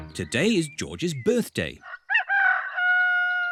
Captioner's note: roster crows